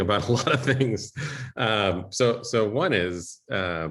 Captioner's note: laughter